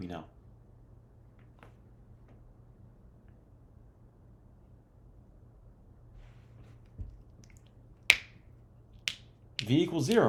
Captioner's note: silence